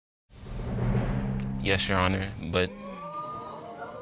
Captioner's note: audience exclaiming